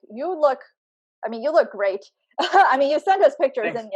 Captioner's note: chuckles